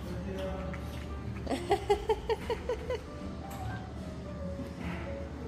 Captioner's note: laughs